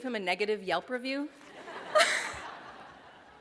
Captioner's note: laughter